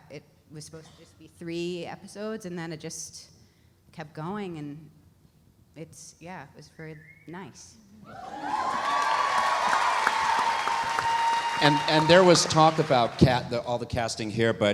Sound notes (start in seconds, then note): 8.0 audience cheering; 8.1 audience applauding